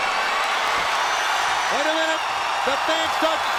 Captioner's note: crowd cheering